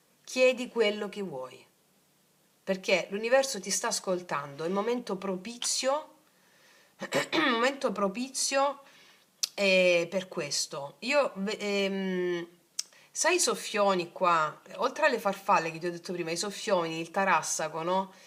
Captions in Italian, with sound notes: Chiedi quello che vuoi perché l'universo ti sta ascoltando. Momento propizio. [schiarire la voce] Momento propizio. Eh, per questo io ehm sai i soffioni qua, oltre alle farfalle che ti ho detto prima, i soffioni, il tarassaco, no?